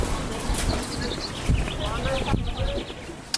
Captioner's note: cart rattling; bird call